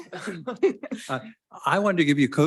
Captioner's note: attendees chuckle